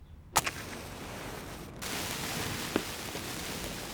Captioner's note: sizzling